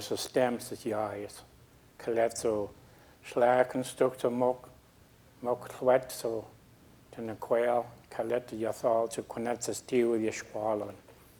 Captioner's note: speaking a local Indigenous language